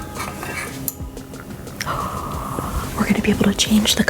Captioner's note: light bulb scraping